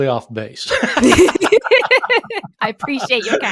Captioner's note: laughing